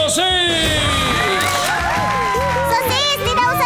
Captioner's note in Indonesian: crowd cheering